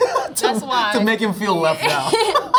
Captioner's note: laughs